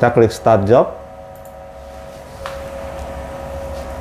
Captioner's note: clicking sound